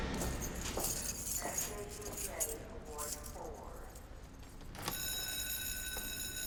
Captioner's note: nurse on P.A; bell ringing